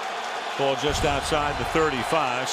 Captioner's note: cheering